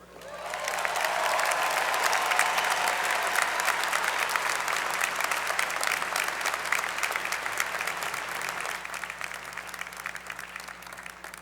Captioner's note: applause